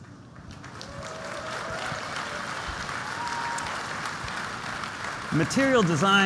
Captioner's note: applause